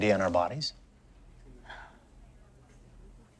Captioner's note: sighs